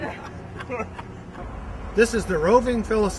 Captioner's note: laughter